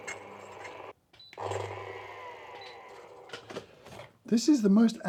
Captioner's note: burrs clinking; grinder beeping; grinder whirring